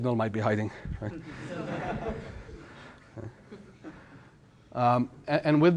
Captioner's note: laughter